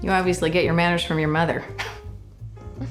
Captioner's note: chuckles